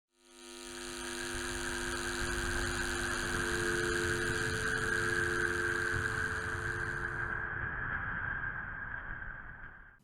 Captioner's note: sound: buzzing and a telephone busy tone fades in and out